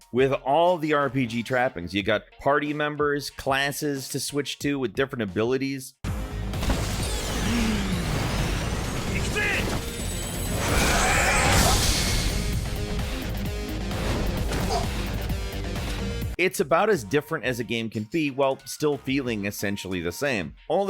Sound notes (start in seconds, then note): 6.2 upbeat techno music; 7.5 flames whooshing; 10.5 blow smashing; 14.0 enemy slams; 14.5 enemy grunts